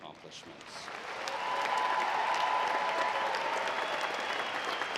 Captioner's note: audience applauding